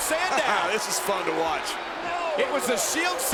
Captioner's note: laughs